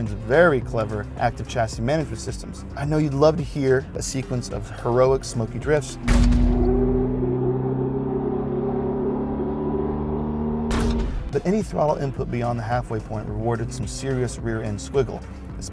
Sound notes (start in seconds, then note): 6.3 car engine revving; 10.6 transition thudding